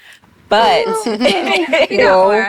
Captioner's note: laughs